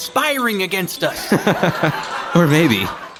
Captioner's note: Randy laughs